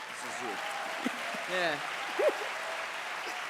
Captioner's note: applause